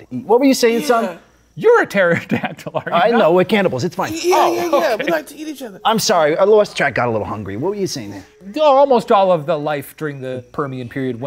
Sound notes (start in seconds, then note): 0.7 laughing; 4.2 chuckling